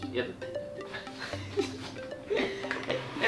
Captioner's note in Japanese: 笑い声